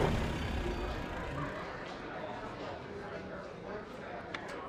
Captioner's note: crowd chattering